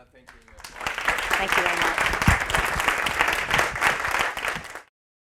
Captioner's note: applause